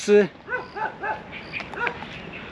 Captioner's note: dong barking